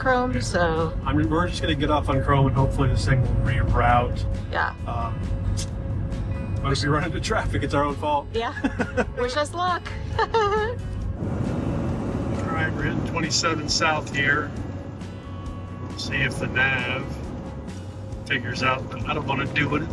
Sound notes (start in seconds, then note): 8.5 laughing